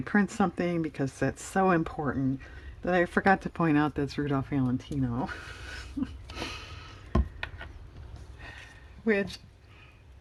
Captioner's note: laughs